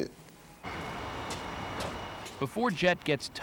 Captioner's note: footsteps